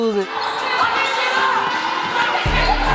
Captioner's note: players shouting